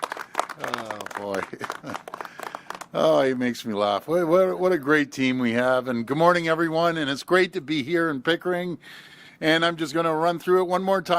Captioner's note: applause